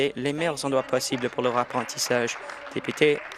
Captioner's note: applause